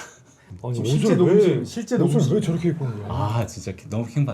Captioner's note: murmurs even before playing